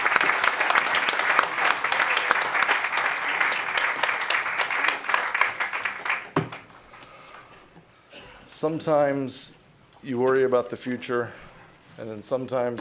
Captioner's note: applause